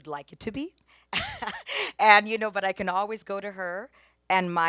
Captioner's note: laughs